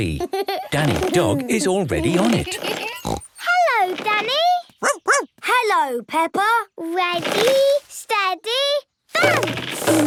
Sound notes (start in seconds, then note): 2.0 snorts; 4.8 barks